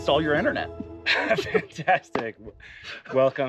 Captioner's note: bright notes playing; both chuckling